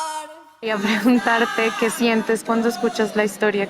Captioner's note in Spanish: Mujer habla